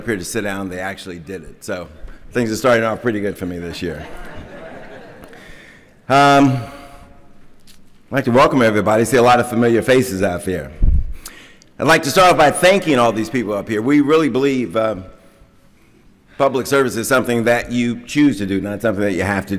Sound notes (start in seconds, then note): 5.9 laughter